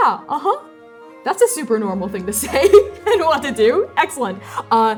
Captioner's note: laughing